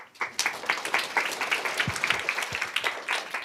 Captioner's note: applause